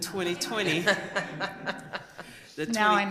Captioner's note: laughter